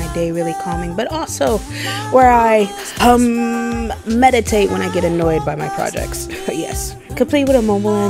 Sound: hum sound

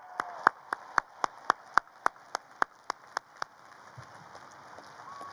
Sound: audience cheers and applauds

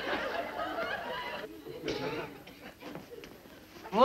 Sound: laughter

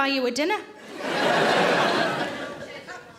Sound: audience laughs

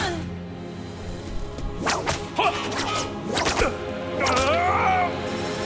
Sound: grunting

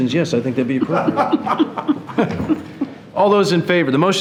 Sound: board laughing

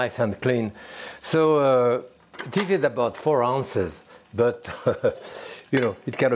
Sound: laughs

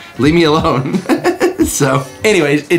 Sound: laughs

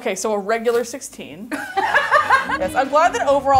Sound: laughing

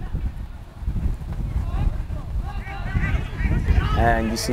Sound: players talking and yelling

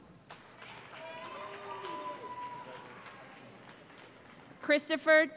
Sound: cheering

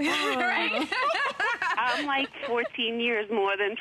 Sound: laughter

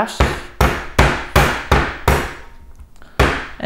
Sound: pounding

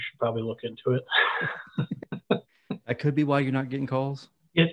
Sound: both laughing

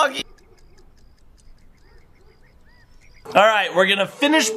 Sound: clock ticking

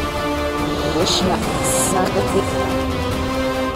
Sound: chanting spell

